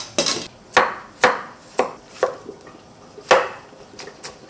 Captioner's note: knife chopping